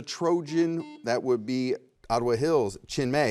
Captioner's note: buzzer rings